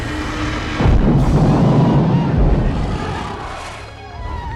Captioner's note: dragon thuds